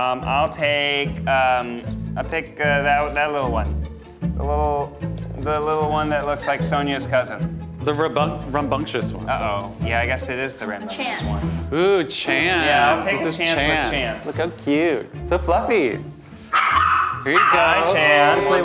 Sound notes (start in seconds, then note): 16.5 puppy barking